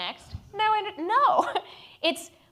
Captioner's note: laughs